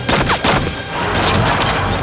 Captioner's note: dramatic music; guns firing